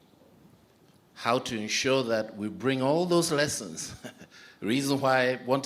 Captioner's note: laughs